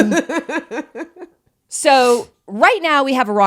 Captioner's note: laughing